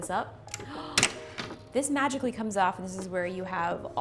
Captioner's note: gasping